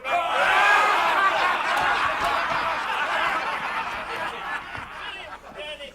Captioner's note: pirates laughing